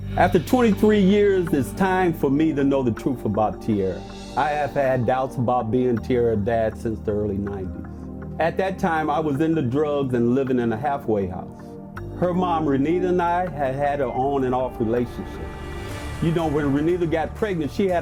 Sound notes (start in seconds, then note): none